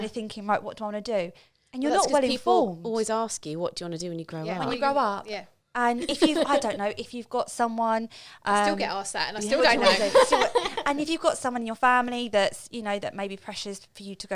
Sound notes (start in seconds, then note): 9.5 laughing